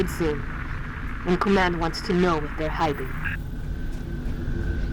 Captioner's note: radio